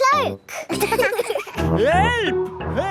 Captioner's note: laughing